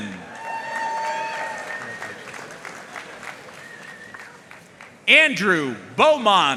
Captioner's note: audience cheering and applauding